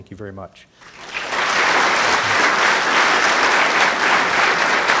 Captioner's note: audience applauding